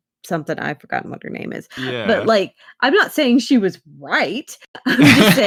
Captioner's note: laughs